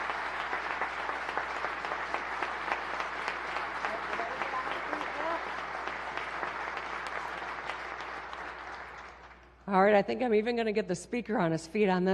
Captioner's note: applause